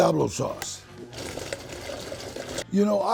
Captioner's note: blender whirring